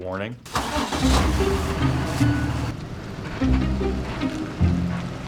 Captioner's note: bus engine humming